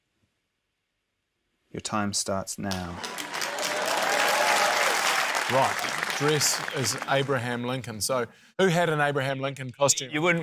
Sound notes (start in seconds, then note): 2.7 cheering, applause